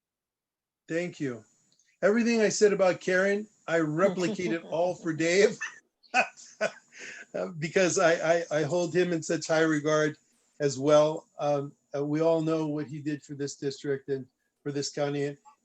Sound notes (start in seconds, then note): 3.9 laughter